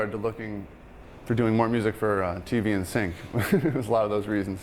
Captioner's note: laughing